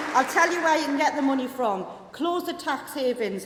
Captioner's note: applause